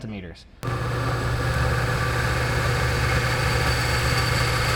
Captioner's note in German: Maschine läuft